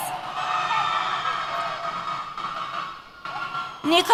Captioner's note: cheers